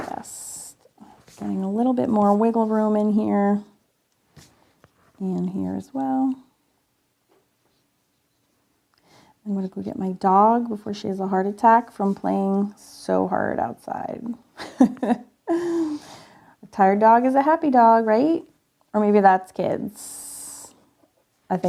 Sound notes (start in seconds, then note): 14.6 chuckling